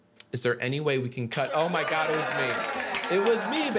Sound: voices cheering

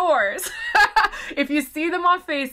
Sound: laughs

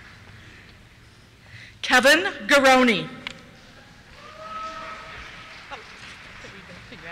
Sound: cheers

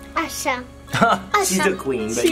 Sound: laughs

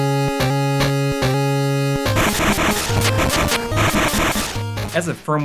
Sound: game audio

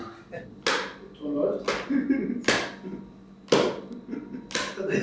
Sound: paper smacking hand

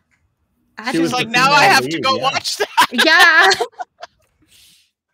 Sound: laughs

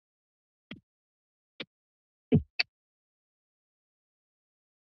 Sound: mic thumps

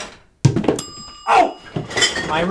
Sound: timer dings

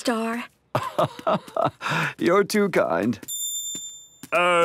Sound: laugh

